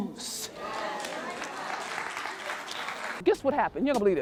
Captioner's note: audience clapping